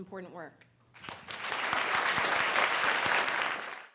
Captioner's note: audience applauding